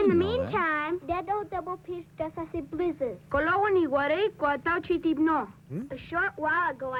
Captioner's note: not speaking English